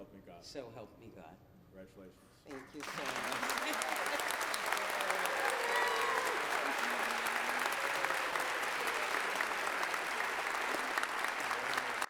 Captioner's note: applause